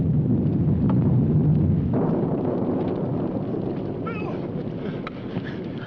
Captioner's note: thunder rumbling